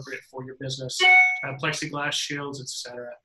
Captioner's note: incoming message ping